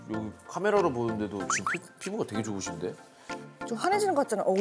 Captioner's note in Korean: 톡톡 / 톡톡